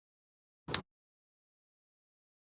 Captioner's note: click